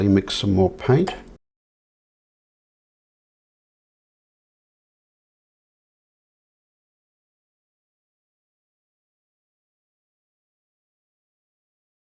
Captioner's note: silence